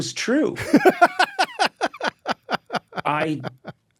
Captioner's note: David laughing